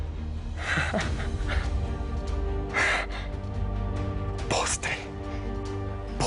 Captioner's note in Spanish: Ríe